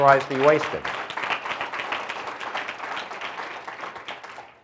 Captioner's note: audience applauds